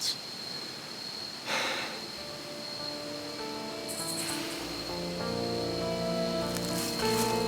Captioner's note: officer sighs; somber music